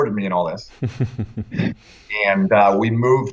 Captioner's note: laughter